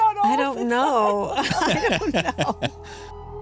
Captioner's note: laughter